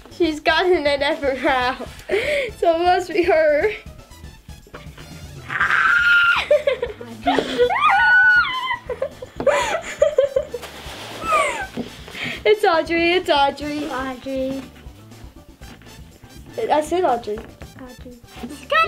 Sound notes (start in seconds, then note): 5.4 squealing; 5.4 laughs